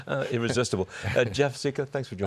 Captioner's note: laughter